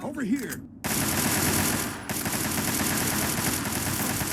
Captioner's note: guns firing